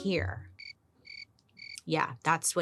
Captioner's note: crickets chirping